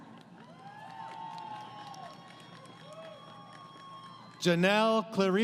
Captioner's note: crowd Cheering